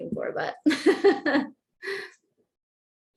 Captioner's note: laughter